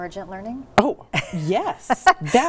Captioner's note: laughing